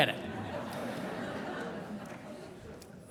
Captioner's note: laughter